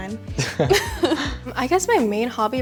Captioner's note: laughs